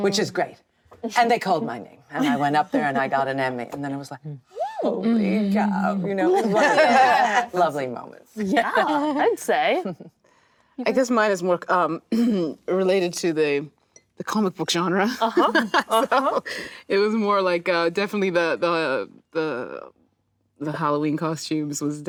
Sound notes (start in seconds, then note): 6.8 actresses reacting; 15.3 Danai laughing